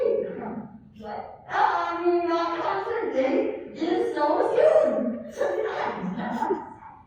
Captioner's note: nervous laugh